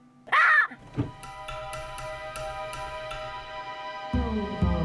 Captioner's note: monkey chattering